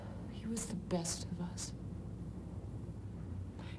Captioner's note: none